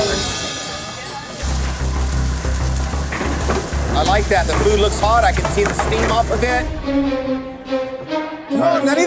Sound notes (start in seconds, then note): 1.2 sizzling